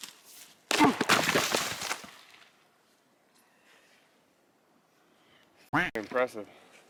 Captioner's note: wood breaks; grunts; duck quacks